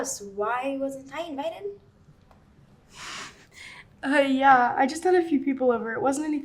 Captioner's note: girls laughing